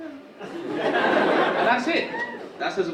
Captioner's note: audience laughing